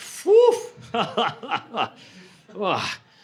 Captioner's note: laughter